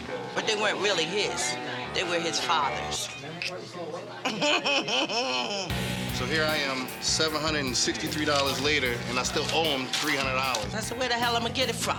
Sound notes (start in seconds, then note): 4.2 laughter